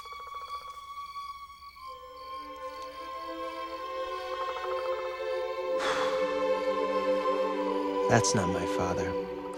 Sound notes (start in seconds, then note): 0.0 cicadas chirping; 5.8 sighs